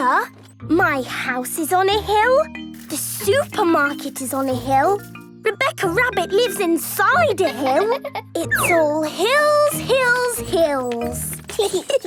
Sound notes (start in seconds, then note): 8.5 laughing; 10.8 giggling